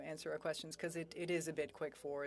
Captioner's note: speaking French